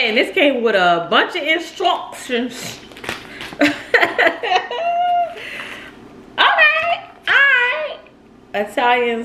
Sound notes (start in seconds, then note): 3.6 laughs